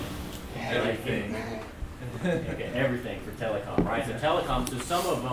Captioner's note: voiceover